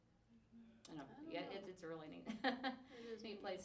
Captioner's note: laughs